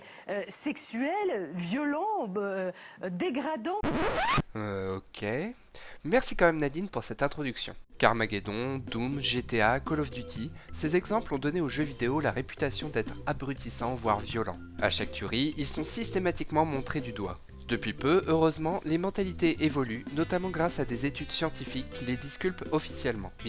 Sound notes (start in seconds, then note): 3.8 record scratch